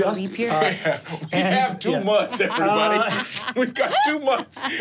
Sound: laughs

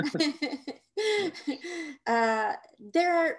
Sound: both chuckling

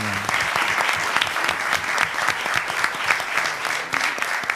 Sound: applause

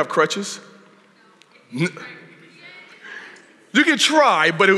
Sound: audience chatter

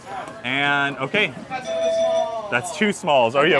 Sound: bell dinging

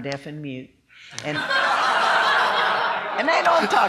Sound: laughing

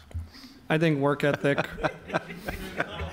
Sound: audience laughs

